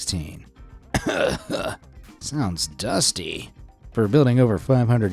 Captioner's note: coughs